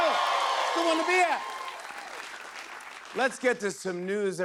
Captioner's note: cheers and applause